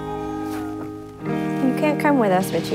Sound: meow

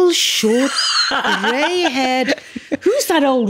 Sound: laughs

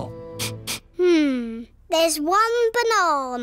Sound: sniffs

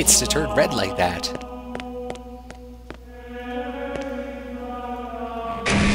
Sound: chanting

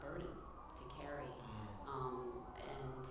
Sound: voice Low

